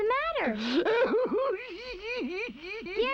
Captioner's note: weeping continues